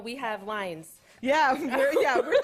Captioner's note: laughter